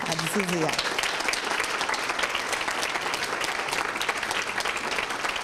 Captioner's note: applause and screams